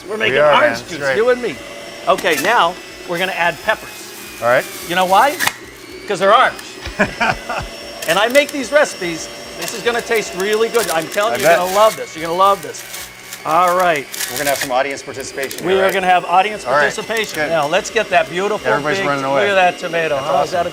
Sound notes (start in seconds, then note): 6.8 laughing